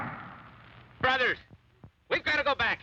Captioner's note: gunshot; shouting